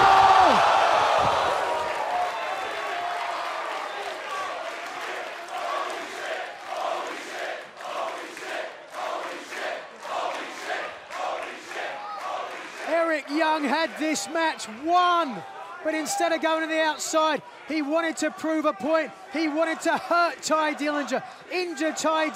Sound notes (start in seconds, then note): 5.4 fans chanting